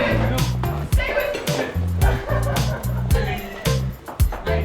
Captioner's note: people laughing; Marty chuckling